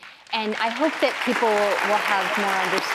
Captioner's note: audience clapping